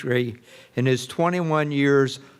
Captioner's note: none